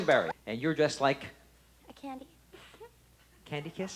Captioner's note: laughs